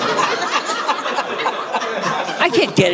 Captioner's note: audience laughing